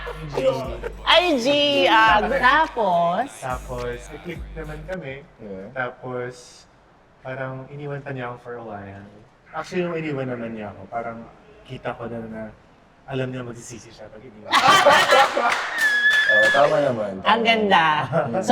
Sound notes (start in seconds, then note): 14.5 claps and laughs